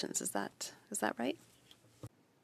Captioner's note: speaking French